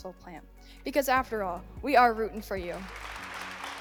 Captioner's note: audience applauds